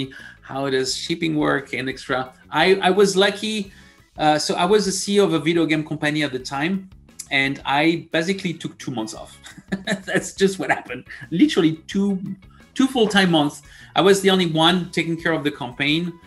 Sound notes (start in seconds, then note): 9.4 laugh